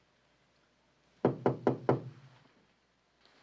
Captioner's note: Kapıyı çalıyor